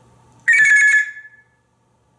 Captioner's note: telephone sound